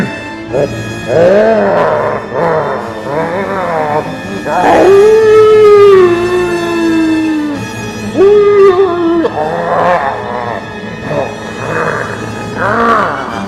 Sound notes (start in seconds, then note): 4.3 howl